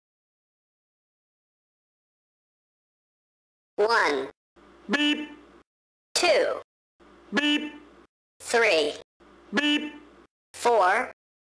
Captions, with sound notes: One [ beep] Two [ beep] Three [ beep] Four